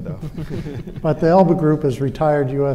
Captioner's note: all laughing